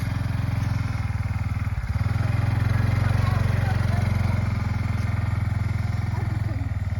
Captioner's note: engine sounds